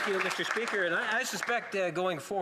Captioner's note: some Applause